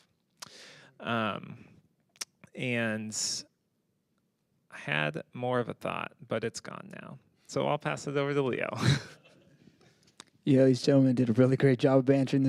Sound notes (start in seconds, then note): 8.7 panelists laughing